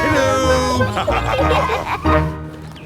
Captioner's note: laughter